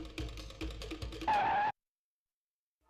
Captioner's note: skidding